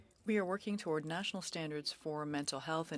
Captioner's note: speaking French